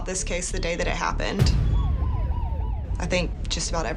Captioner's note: sirens wailing